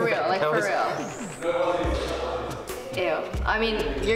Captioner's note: people talking